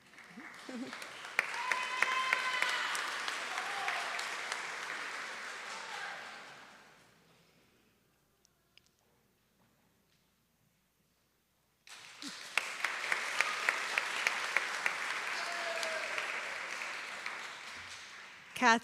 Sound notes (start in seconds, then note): 6.5 applause; 11.8 applause